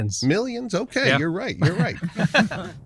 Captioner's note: laughter